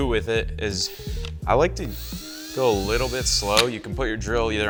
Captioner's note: drill humming